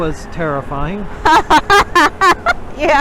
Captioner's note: laughs